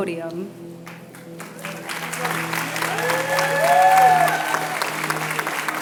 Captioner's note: applause